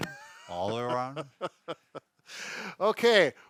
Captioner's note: laughing